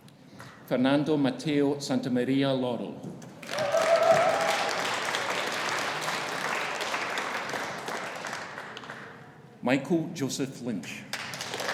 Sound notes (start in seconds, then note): 3.4 audience applauding; 3.4 audience cheering